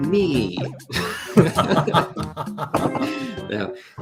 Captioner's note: laughter